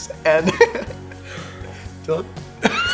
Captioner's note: laughter